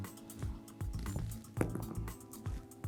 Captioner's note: dice rolling